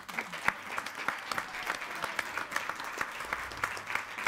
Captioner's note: applauding